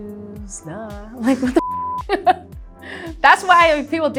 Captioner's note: beep